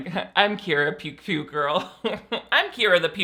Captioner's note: laughs